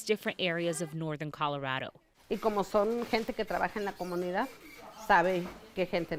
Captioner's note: speaking in foreign language